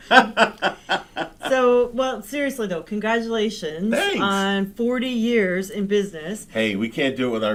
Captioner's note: laughing